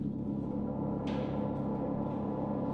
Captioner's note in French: none